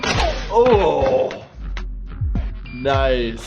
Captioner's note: groaning